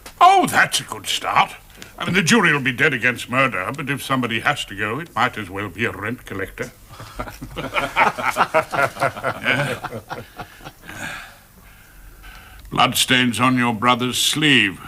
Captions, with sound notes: - Oh, that's a good start! The jury will be dead against murder but if somebody has to go it might as well be a rent collector. (all laugh) Bloodstains on your brother's sleeve.